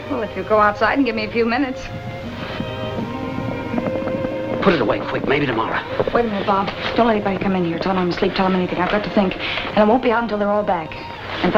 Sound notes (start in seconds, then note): 2.4 hooves approaching